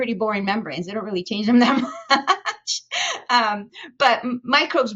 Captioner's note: chuckles